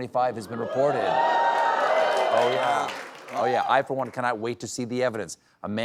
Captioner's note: cheers